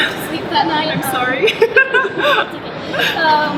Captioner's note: laughs